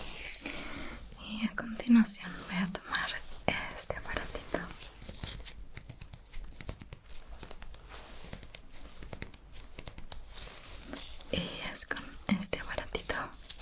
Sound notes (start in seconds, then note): 5.6 soft tapping sounds